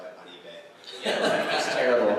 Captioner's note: laughter